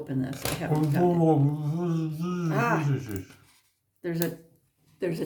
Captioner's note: mumbling with a full mouth